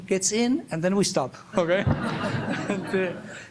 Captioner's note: laughs